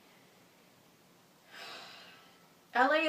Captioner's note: sighs